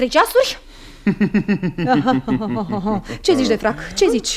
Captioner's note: bitter laughter